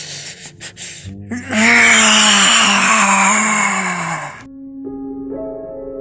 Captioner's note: screams in agony, pain, and sadness